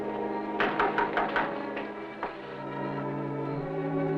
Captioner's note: knocking on door